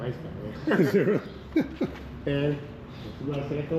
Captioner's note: laughs